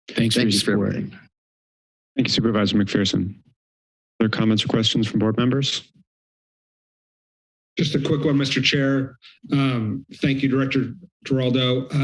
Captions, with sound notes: - Thanks, for your support. [pause] - Thank you, Supervisor McPherson. Other comments or questions from board members? [silence] - Just a quick one, Mr. Chair. Um, thank you, Director Giraldo,